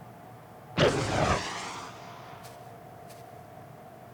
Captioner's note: gun firing